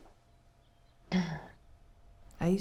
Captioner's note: Anne clears throat